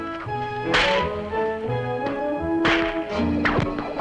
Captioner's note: whips cracking